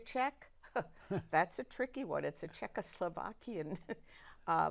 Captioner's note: laughing